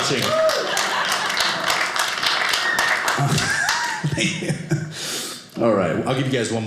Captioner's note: audience cheering